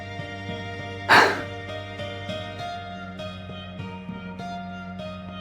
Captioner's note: sigh